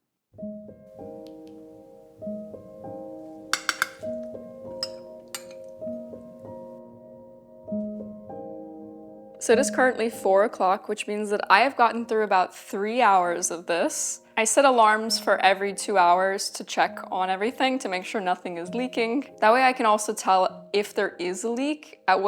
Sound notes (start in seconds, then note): 0.1 gentle music; 3.5 cutlery clinking